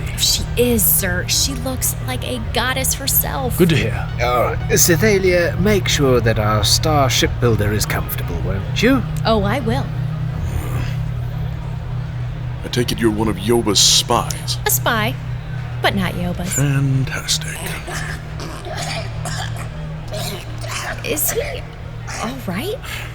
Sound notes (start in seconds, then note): 10.1 Chartrulean groans in annoyance; 16.4 Cydar coughing wetly from across the room